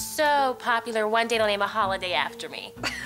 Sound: chuckles

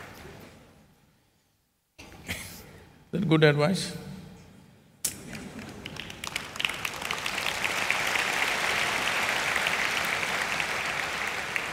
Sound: applause

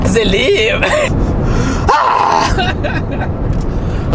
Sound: screaming

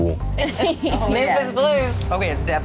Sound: laughter

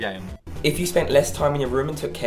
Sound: voiceover

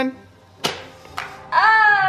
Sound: toaster pops

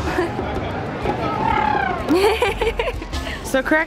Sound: elephant noises; laughter

